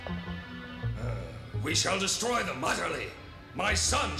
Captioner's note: grunts